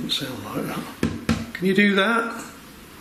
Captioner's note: tapping on window